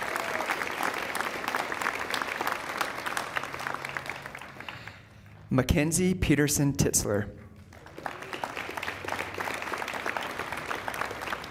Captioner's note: applause